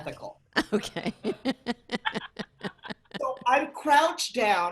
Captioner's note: laughing